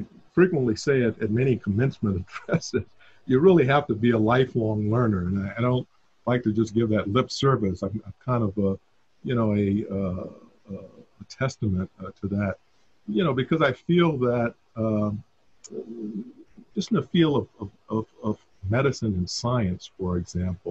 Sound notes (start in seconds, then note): 2.0 chuckle